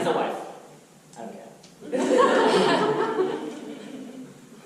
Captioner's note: audience laughter